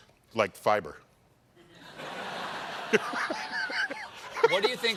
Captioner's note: laughter